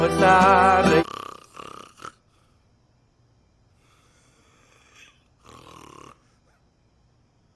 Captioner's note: snoring